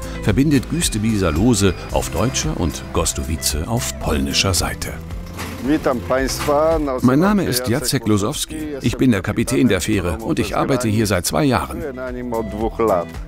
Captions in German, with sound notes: verbindet Güstebieser Loose auf deutscher und Gozdowice auf polnischer Seite. (spricht Polnisch) Mein Name ist Jacek Losowski. Ich bin der Kapitän der Fähre und arbeite hier seit 2 Jahren.